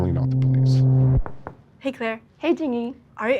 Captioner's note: wall thuds